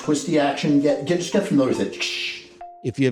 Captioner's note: mimicking gas canister pressure noise with mouth